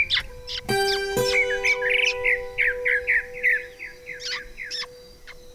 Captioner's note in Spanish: cantos de pájaros